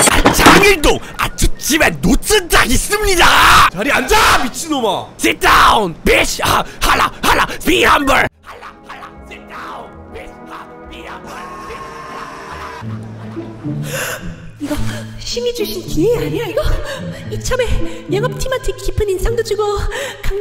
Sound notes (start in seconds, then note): 13.8 gasp